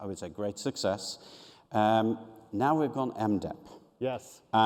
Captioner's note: none